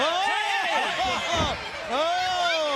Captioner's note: all three announcers exclaim